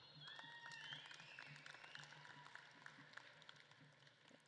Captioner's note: audience claps and cheers